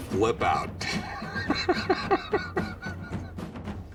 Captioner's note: laugh